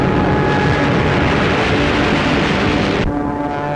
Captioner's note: plane crashing; plane flying overhead